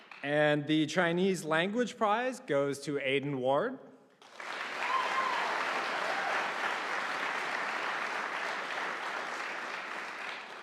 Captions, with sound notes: And the Chinese Language Prize goes to Aidan Ward. (audience applauding)